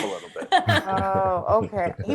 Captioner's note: Desi laughs